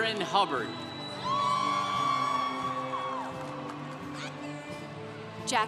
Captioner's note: congregation cheering